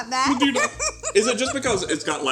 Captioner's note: both laugh